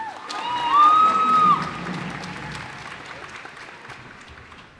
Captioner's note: cheers and applause